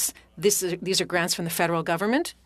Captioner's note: speaking French